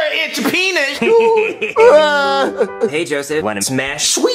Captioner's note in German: weint